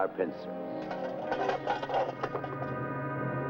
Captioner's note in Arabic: أصوات الكؤوس; موسيقى درامية